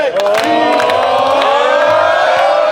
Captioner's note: crowd